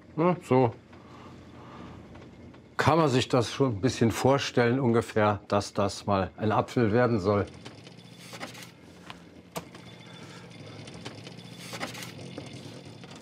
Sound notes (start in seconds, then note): 10.4 rattling